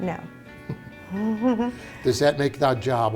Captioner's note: both chuckle